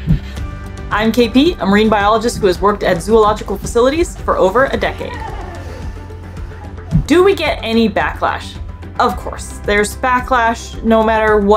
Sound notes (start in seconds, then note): 0.1 background music; 4.7 laughing; 5.3 background music